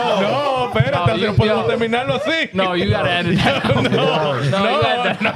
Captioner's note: laughing; speaking In Foreign Language